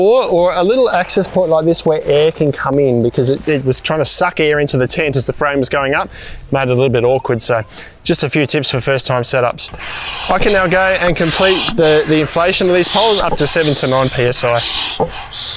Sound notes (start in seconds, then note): 9.7 pump hissing